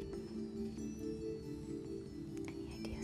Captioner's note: whispering